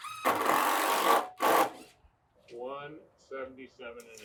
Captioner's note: machine drilling